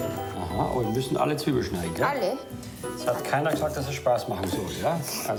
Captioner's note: speaking foreign language